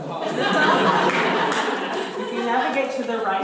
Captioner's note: audience laughter